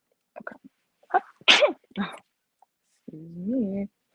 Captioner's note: sneezes